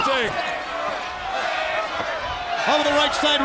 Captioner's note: crowd cheering